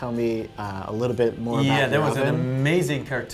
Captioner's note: none